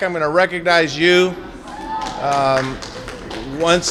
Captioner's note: applause